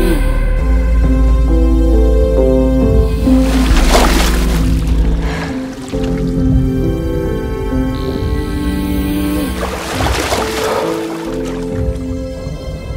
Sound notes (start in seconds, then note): 3.2 water splashing; 9.5 water splashing